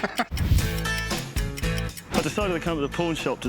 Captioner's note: laughter